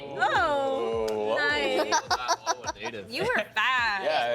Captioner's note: others chattering